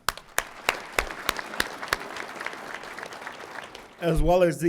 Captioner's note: audience applauding